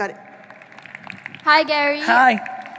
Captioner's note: audience applauding